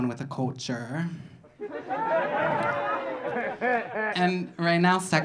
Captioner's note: audience laughing